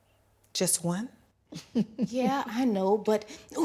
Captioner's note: chuckling